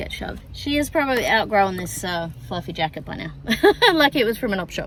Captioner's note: laughs